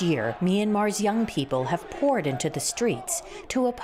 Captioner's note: protests